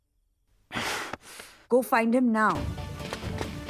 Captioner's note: Gasps